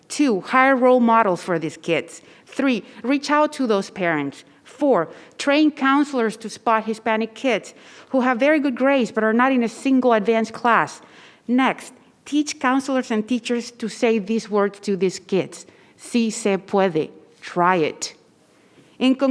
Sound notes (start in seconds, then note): 16.3 speaking in foreign language